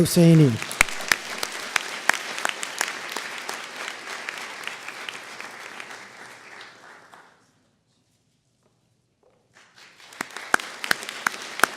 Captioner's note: applause